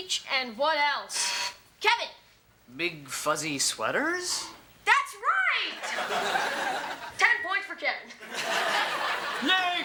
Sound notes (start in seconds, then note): 1.1 Kevin hits the buzzer; 8.2 audience laughs